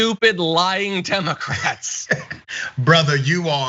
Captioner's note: laugh